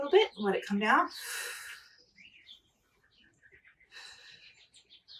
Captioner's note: exhaling